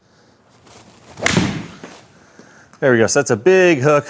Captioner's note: golf ball pings